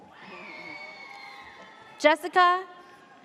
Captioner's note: audience cheers